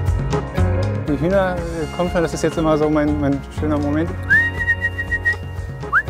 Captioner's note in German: pfeift